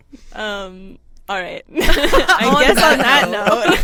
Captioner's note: everyone laughs